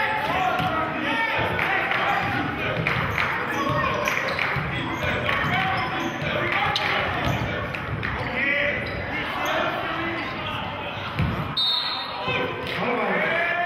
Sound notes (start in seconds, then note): 1.0 yelling; 3.7 chanting; 11.5 whistling